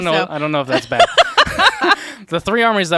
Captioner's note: laughs